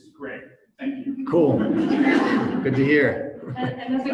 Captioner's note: audience laughs